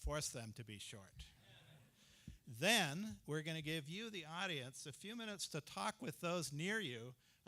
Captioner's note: laughter